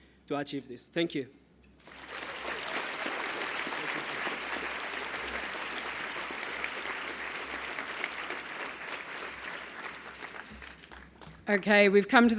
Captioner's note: applause